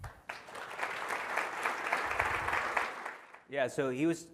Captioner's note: audience applauds